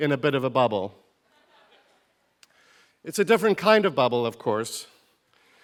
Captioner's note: laugh